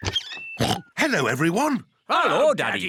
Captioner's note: oinks